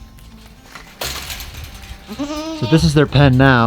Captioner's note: gate rattling; goats bleating